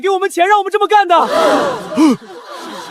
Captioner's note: gasp!